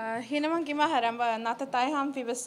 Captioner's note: non-english speech